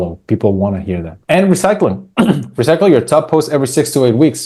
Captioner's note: clears throat